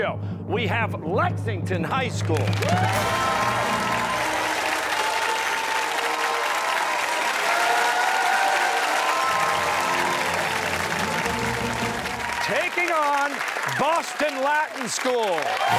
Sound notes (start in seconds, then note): 2.4 fanfare; 7.2 cheers and applause; 15.6 fanfare